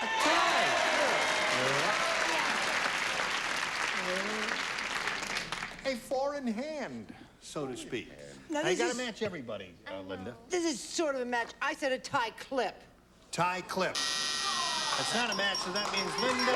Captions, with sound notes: A TIE? GOOD. YEAH. [cheers and applause] A FOUR-IN-HAND, SO TO SPEAK. NOW-- YOU GOTTA MATCH EVERYBODY, LINDA. THIS IS SORT OF A MATCH. I SAID A TIE CLIP. TIE CLIP. [buzzer] THAT'S NOT A MATCH SO THAT MEANS, LINDA--